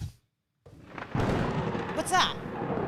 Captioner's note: thunder clapping